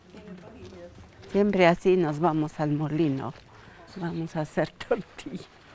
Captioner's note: speaking in foreign language